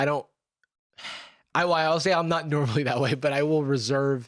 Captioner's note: sighs